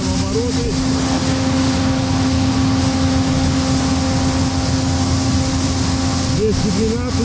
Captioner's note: engine sounds